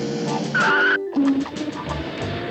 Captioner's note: tlRES SCREECH